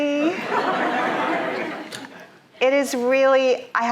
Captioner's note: audience laughing